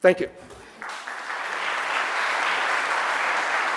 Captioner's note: applause